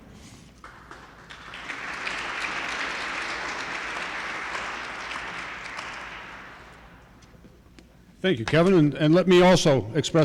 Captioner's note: applause